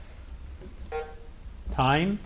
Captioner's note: timer buzzing